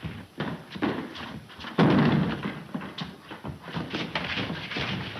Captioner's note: blows thudding